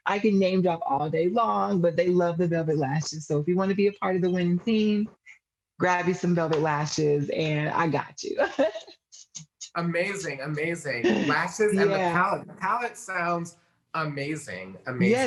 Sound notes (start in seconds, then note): 8.6 laughs excitedly